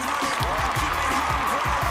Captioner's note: applause